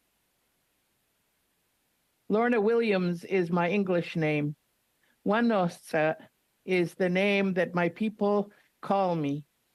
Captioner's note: speaking Indigenous Language